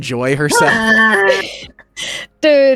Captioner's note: laughing